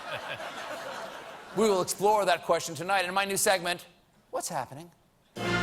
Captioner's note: laughter